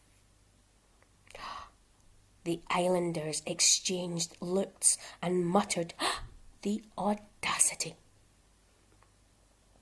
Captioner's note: SHARP INTAKE Of BREATH